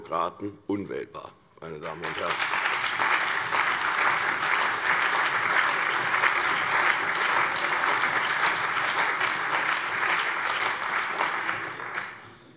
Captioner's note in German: Allgemeiner Beifall